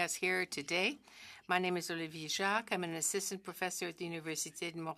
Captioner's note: speaking French